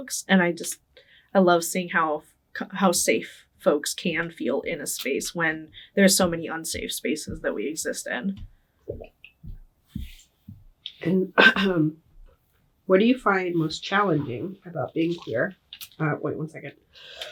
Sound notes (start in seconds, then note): 11.3 coughing